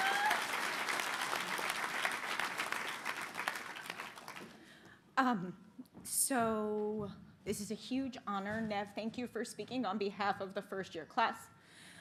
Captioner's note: applause